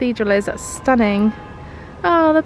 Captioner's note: bells tolling